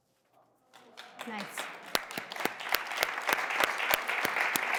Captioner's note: audience applauding